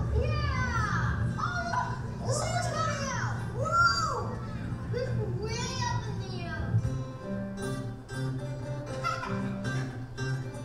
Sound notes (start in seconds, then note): 5.1 voiceover; 6.8 calm music